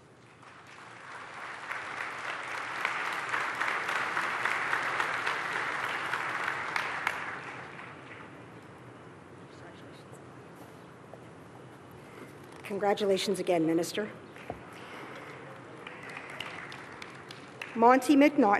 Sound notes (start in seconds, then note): 6.2 applause